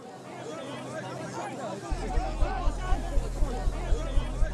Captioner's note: background chatter